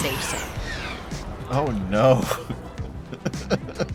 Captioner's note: chuckles